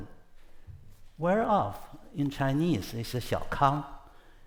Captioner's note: speaks foreign language